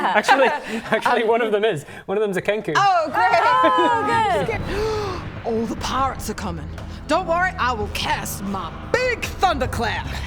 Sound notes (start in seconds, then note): 4.6 gasp